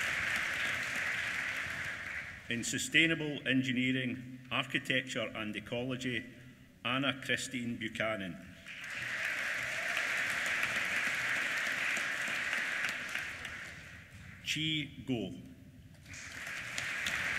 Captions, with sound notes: In Sustainable Engineering, Architecture and Ecology Anna Christine Buchanan. (APPLAUSE) Qi Guo. (APPLAUSE)